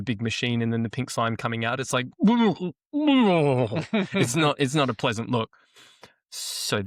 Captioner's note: gagging sound; laughs